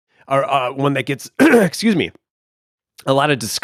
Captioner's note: clears throat